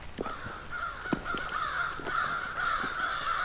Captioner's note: crows cawing